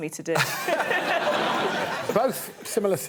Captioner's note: both chuckles